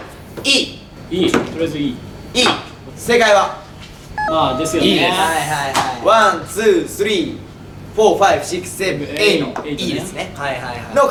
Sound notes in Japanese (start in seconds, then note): 4.2 ピンポーン：効果音